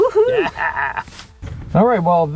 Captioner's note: laughs